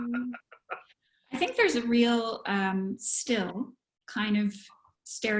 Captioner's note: laughter